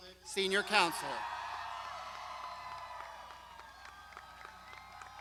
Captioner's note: crowd shouting